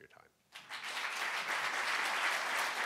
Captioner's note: clapping; crowd